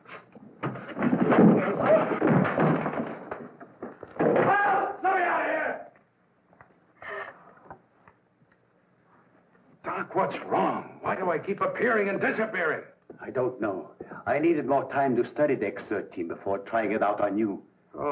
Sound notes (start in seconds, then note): 0.6 scuffle; 7.3 gasp